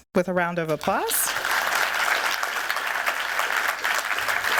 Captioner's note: applause